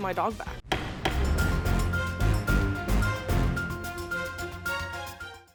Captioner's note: gavel pounding; dramatic music